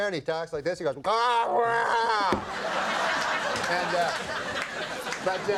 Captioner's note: Norm groaning; audience laughing